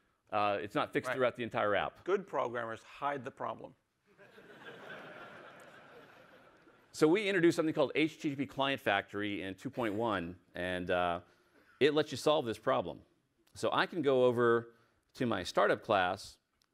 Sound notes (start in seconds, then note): 6.4 laughter